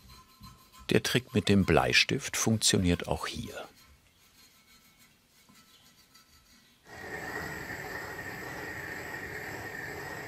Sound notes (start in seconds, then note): 6.8 hissing